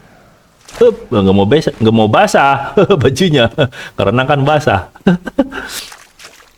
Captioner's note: laughs